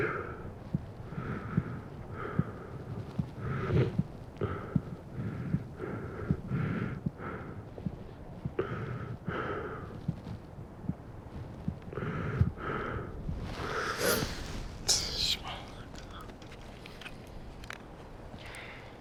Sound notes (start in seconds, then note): 0.2 crying, heart beating; 8.4 crying, heart beating continues; 15.3 exhales